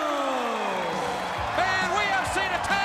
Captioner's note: crowd cheering